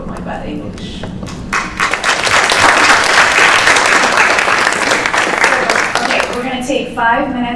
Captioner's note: applause